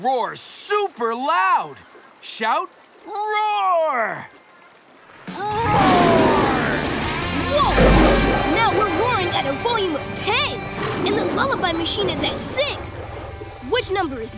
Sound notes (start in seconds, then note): none